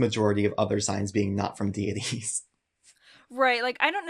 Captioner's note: chuckles